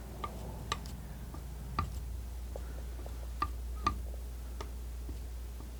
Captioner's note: scratching; scratching